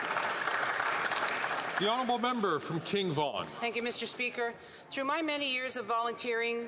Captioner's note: some Applause